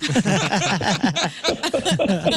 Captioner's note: laughing